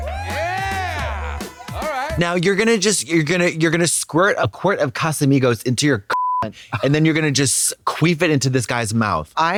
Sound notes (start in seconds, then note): 6.1 beep